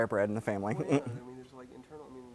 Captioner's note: laugh